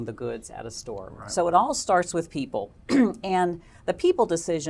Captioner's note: cough